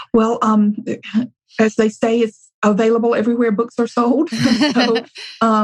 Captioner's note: laughs